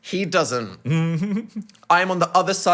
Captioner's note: giggling